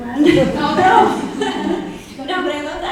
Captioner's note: audience chuckling